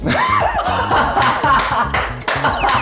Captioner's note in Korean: 빵 터짐